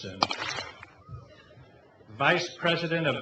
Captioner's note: clap